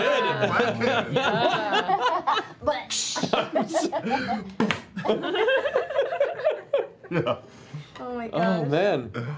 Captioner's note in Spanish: risas